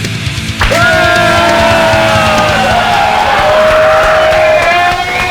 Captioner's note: cheers and applause